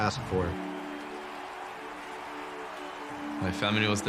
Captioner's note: crowd applauding